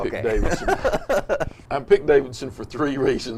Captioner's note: both laughs